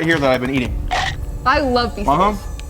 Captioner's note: teeth chomping